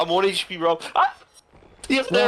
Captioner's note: goofy scream